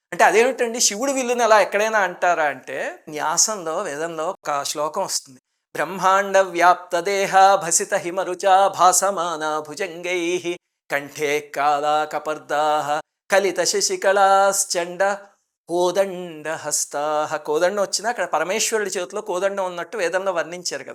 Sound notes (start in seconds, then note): 5.7 Reciting a verse from the Vedas